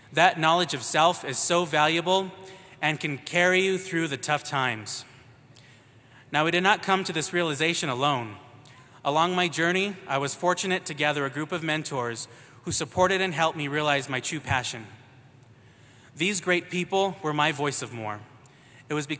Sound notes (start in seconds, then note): none